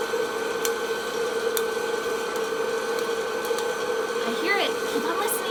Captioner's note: popcorn popping